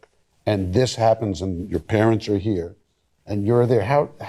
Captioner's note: none